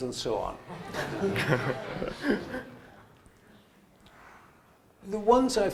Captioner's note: laughter